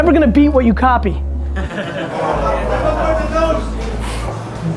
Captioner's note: group laughter